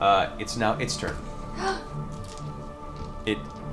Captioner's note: gasps